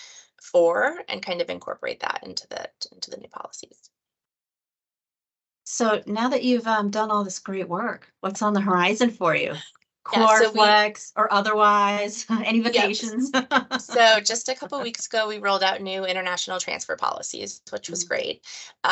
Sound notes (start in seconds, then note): 12.7 laughter